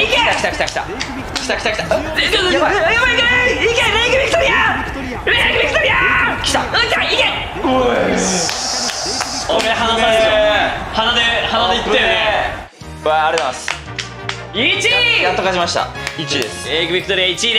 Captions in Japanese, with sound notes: 来た 来た 来た！ 来た 来た 来た！ えっ？ えっ えっ えっ うえっ！ やばい！ やばい！ 行けー！ レイクビクトリアー！ レイクビクトリアー！ 来た！ うわっ 来た！ 行け！ っしー！ おうぇ～い… これ ハナ差でしょ？ あっぶねぇ～！ 鼻で 鼻で行ったよね？ あっぶねぇ～ わぁ ありがとうございます （拍手） 1位～！ やっと勝ちました 1位です レイクビクトリア 1位です！